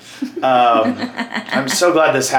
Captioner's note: laughs